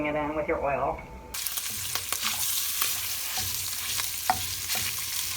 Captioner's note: sausage sizzling